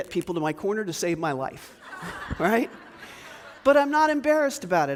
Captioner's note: audience laughs